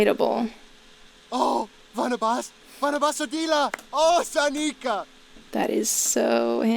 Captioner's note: sim joyously freaking out